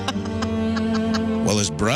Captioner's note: laughs